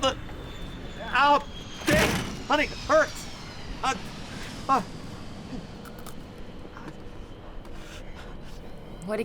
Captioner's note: Earl whining in moderate discomfort